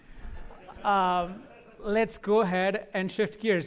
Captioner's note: laughter